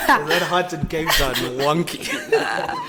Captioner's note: everybody laughs